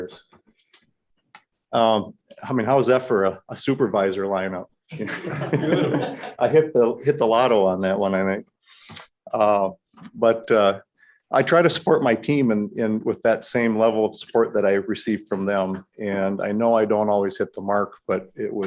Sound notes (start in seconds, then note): 4.9 laughter